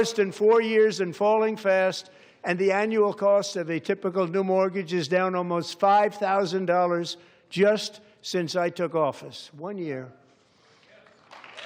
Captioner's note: applause